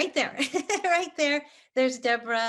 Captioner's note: laughs